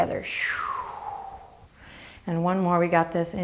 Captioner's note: exaggerating exhale